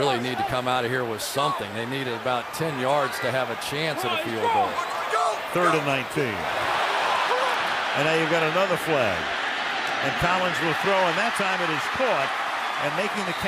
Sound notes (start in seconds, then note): 7.6 cheering